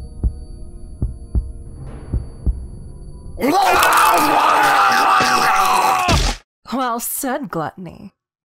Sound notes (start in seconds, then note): 3.5 consumption sounds from a demon